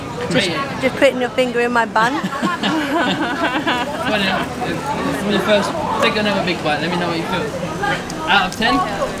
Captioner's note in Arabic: يضحك